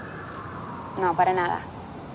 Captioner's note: sirens